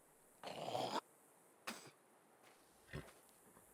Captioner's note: man hocking